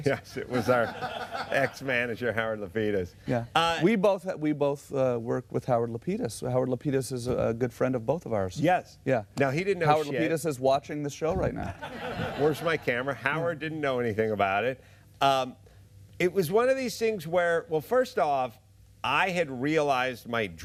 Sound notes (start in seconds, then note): 11.6 laughter